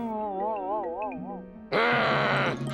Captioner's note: gulps; growling